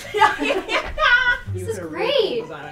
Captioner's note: laughs